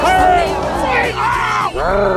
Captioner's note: man growling